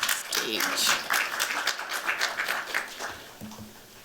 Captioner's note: applause